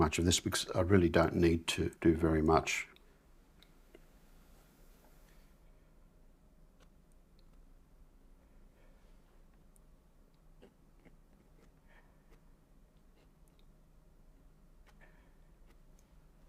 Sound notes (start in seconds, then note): 2.9 silence